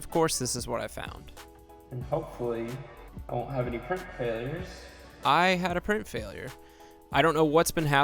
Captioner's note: echoes